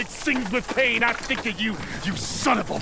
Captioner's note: fire crackles